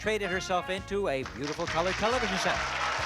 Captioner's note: applause